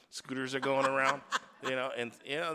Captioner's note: woman laughs